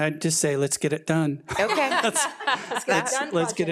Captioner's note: all laughing